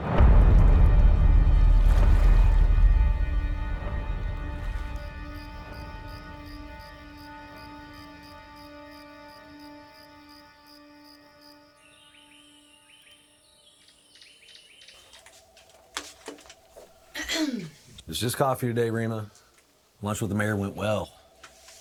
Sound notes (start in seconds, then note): 0.1 tense music; 5.4 crickets chirping; 11.7 birds chirping; 17.1 Reema clears throat